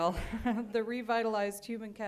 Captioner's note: laughter